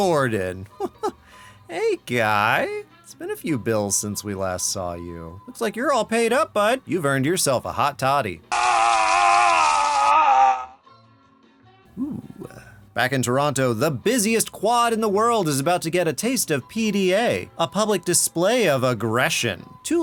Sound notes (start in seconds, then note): 8.5 dr. gordon screaming